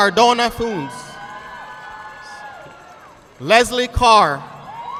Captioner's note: audience clapping